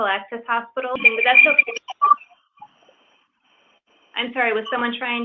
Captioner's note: static drowns out voice